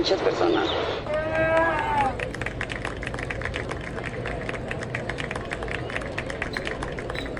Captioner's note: applause